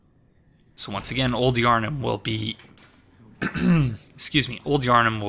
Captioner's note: coughs